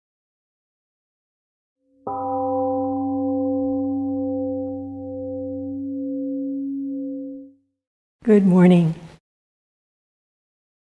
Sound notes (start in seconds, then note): 2.0 temple gong rings and fades